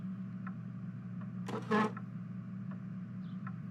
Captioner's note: chair scrape